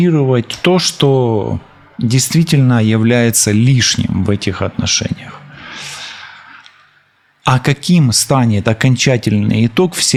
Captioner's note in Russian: вздыхает